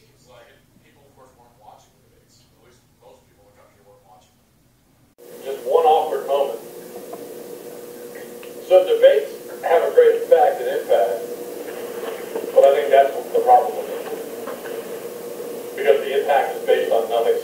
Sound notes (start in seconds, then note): 4.9 amplified Speaking